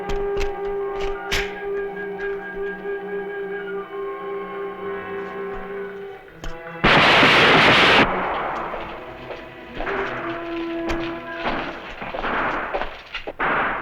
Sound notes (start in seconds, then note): 6.3 gunfire